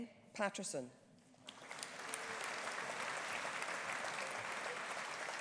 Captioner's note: audience applauding